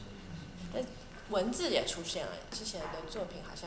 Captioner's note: Mandarin